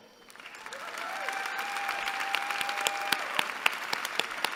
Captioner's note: applause